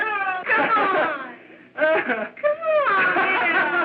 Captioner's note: laughing